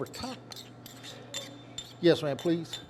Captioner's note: spoon scraping